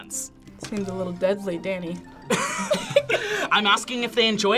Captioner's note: both laugh